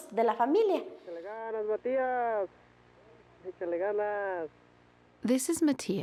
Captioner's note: man speaking Spanish